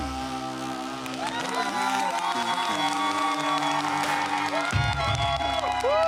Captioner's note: all cheering